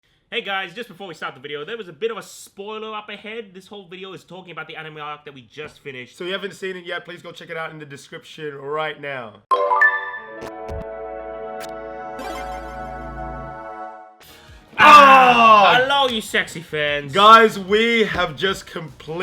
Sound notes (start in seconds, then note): 14.8 siiiiiiigh